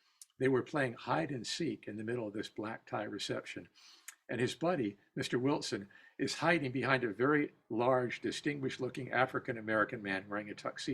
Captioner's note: whispering